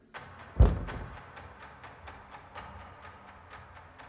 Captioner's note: door thumping